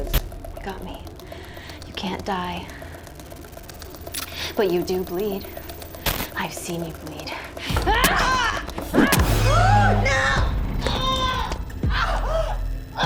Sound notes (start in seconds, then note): 7.6 Kira grunts; 7.6 Madam Maze grunts; 10.9 Madam Maze groaning